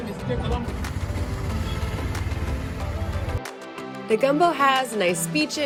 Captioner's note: tuk tuk engine roaring